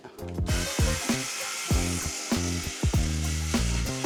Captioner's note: saw buzzing